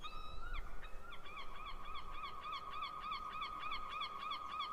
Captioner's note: seagulls calling